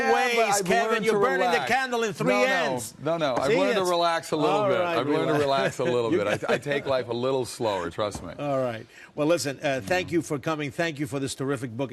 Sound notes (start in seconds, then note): 6.1 laughs